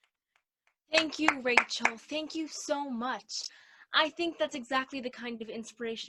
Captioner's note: claps